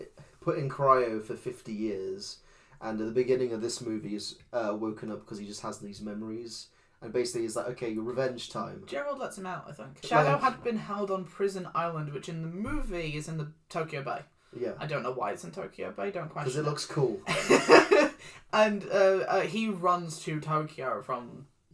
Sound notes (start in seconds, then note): 17.3 laughs